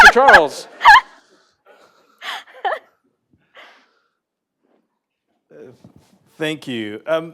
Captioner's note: laughter